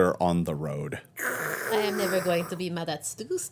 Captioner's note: slurping